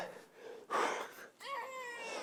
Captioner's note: slur; crying TT